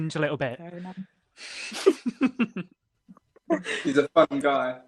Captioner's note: laughter